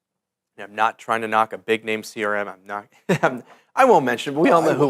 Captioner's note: laughs